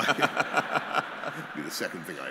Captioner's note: laughter